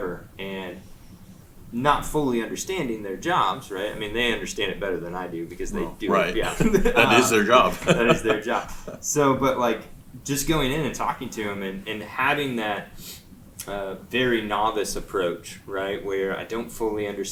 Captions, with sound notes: and not fully understanding their jobs. Right. I mean, they understand it better than I do because they do - Right. - their job. (laughs) - It is their job. - And it's their job. So, but like just going in and talking to them and having that very novice approach right. where I don't fully understand it.